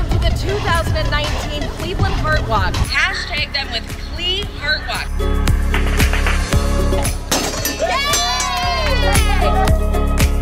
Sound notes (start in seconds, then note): 7.4 bell clanging; 7.8 cheering